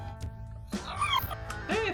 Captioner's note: robot makes sound